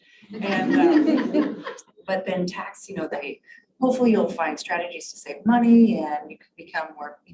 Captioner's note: laugheter